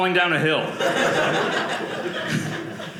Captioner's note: audience laughing